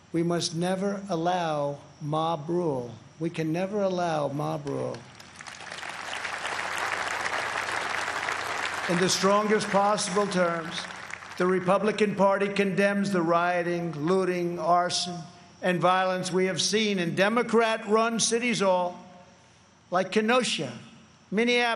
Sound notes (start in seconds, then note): 8.5 applause